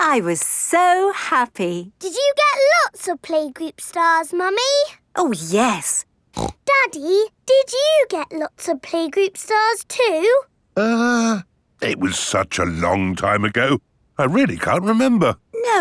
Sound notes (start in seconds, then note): 6.3 snorts